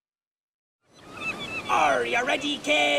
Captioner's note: seagulls squawk